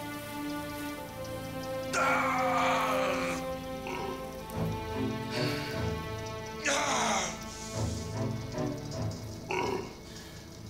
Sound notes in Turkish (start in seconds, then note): 1.8 Bağırma sesi; 6.6 Bağırma sesi; 9.4 İnleme sesi